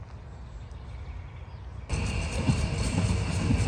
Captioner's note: birds chirping